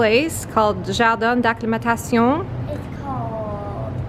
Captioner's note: speaks foreign language